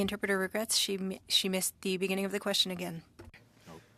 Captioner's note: speaking French